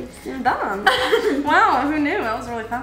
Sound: laughing

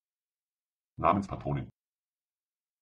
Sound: fast Pronunciation

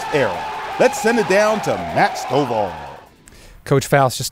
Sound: cheers

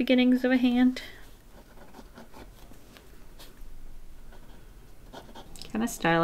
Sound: pencil scratching on paper

